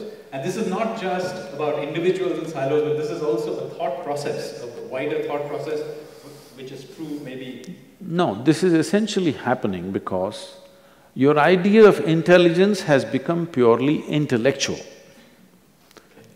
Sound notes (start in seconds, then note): none